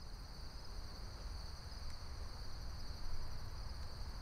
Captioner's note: crickets fade in